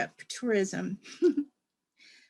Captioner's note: laughter